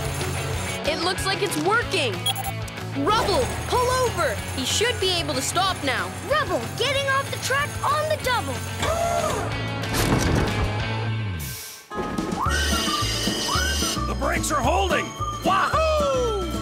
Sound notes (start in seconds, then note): none